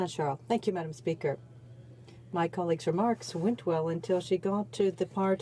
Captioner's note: speaking French